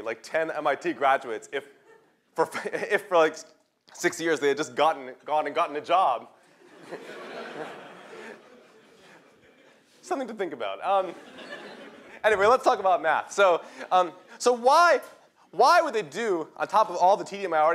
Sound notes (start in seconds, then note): 6.5 laughter